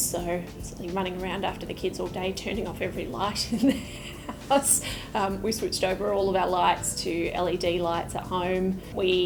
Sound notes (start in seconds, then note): 3.6 laughs